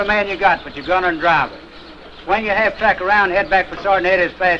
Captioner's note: birds chirping